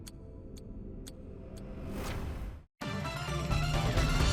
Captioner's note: clock ticking; upbeat music; dramatic music